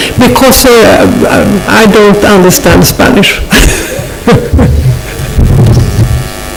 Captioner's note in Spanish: se ríe